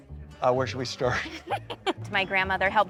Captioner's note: laughs